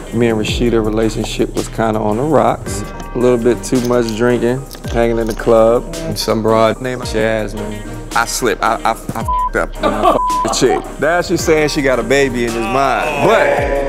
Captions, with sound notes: me and Rasheeda relationship was kind of on the rocks, a little bit too much drinking, hanging in the club and some broad named Jasmine, I slipped, I (beep) up. (friends scoffing) I (beep) the chick. Now she's saying she got a baby and it's mine, but...